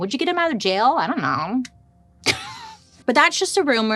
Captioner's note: laughs